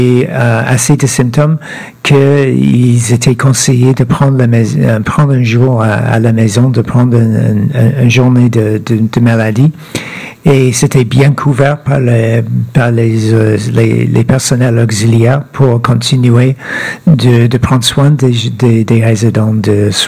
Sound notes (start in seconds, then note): 2.8 speaking French